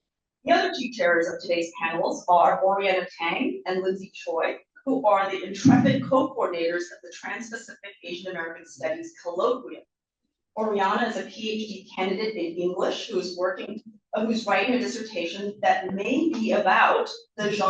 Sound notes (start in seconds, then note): none